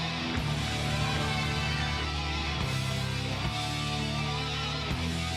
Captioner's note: audience cheers